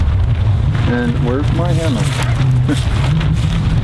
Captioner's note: laughing